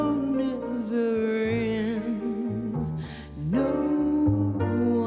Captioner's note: inhales